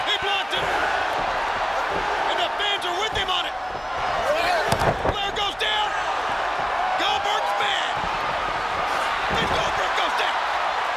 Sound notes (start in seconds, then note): 4.6 Ric Flair thudding; 10.7 crowd cheering